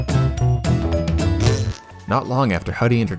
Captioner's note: wet fart